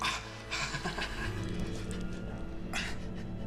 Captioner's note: chuckles